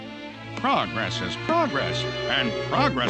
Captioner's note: in normal voice